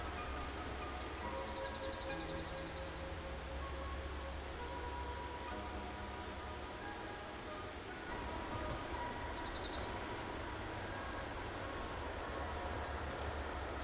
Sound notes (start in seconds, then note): 8.1 bird calls